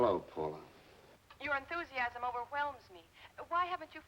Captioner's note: on phone